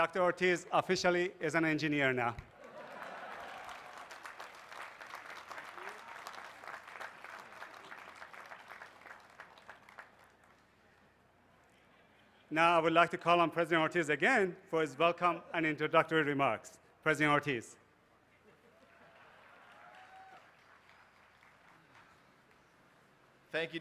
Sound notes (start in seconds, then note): 4.7 laughter; 6.0 applause